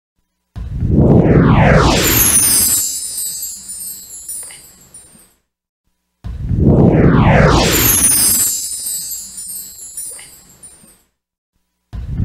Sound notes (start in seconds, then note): 1.0 whooshing and twinkling sounds; 6.7 whooshing and twinkling continuing